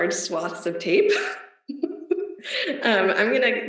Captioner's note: laughs